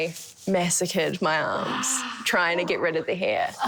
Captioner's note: groan